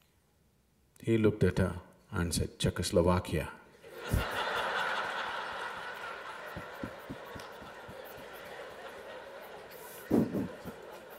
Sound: laughter

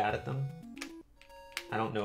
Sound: D-Pad clicks

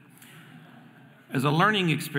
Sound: audience laughing

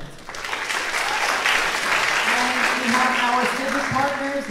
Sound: audience clapping

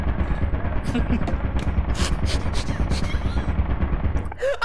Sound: turret fire continues; laughs with her mouth closed

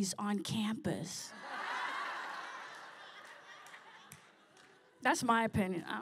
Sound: laughter

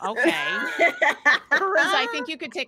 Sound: group laughing

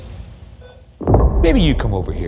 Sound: BooBuddy beeps

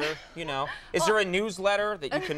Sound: Molly laughs

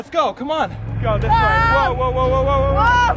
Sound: yell

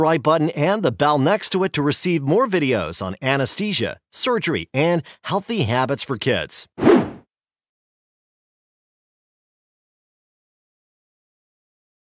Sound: whoosh sound effect

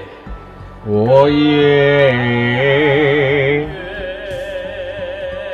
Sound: foreign Language

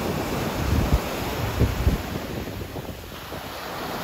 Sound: waves rushing

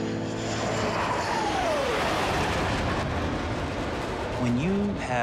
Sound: jet engine roaring

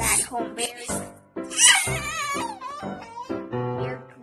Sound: Barry Crying

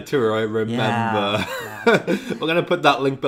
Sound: laughs

